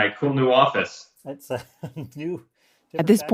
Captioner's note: laughs